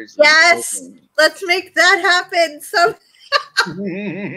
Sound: laughs

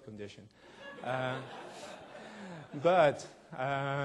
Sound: audience laughing

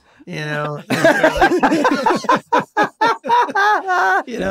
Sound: all laughing

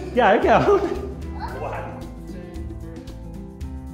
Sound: both laughing

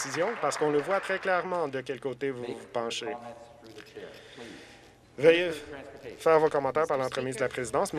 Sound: some Applause

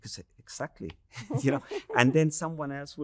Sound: people chuckling

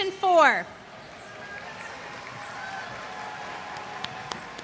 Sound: applause

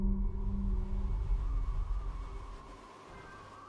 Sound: wind whooshing

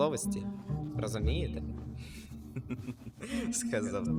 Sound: laughs

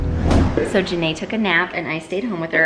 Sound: whoosh; upbeat music

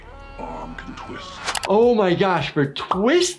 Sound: person screaming

